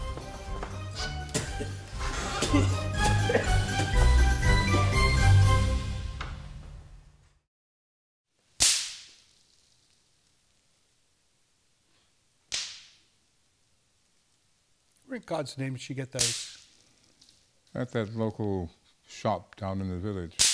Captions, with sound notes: blech! [spitting] where in God's name did she get those at that local shop down in the village